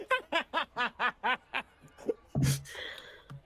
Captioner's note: laughter